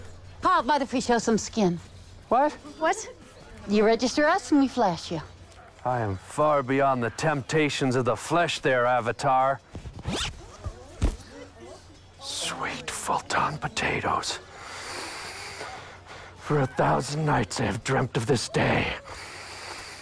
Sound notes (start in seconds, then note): 9.9 unzip